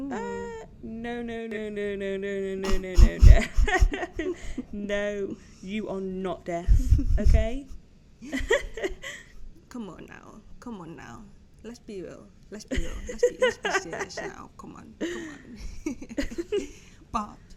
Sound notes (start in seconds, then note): 2.6 laughter; 8.2 laughter; 12.7 laughter; 15.0 giggles